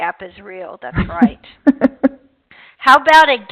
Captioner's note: laughing